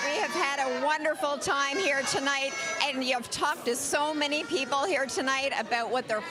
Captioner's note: cheering